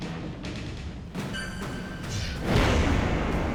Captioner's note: air whooshes